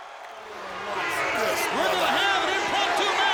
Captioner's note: Randy mumbling